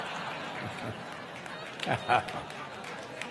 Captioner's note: crowd laughing